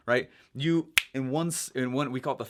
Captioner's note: snaps fingers